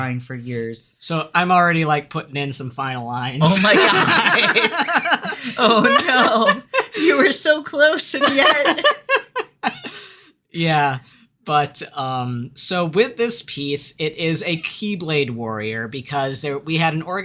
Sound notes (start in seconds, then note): 3.4 laughter